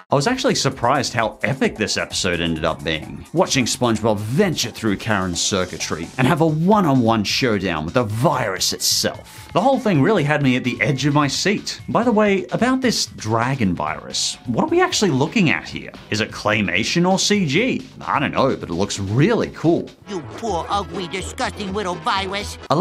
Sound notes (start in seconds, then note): none